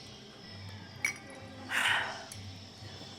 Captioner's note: glasses clink